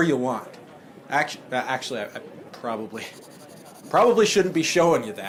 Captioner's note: students pens scratching while writing notes